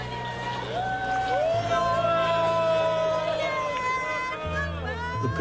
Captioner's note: crowd cheers